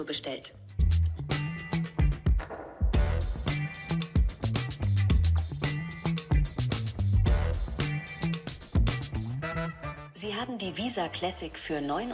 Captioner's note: non-English speech